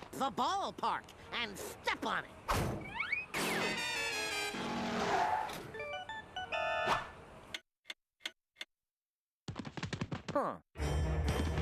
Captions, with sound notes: THE BALLPARK, AND STEP ON IT. [clock ticking] HMM.